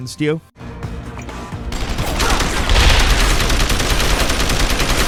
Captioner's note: gameplay playing